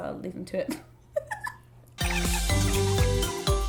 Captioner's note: mellow music; laughing